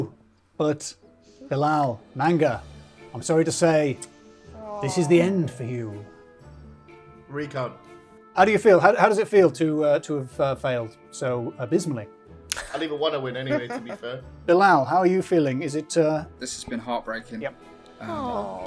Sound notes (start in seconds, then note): 6.1 bouncy upbeat music; 13.3 laughing